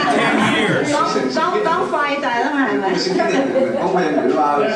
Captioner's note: speaking Hoisan-wa